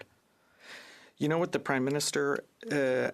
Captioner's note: speaking in French